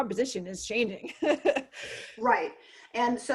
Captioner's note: laughs